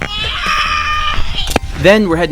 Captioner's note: screams